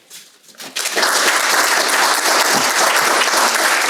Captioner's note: crowd applauds